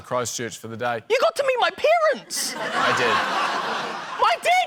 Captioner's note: laughter